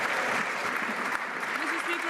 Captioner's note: some Applause